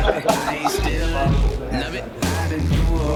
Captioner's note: laughing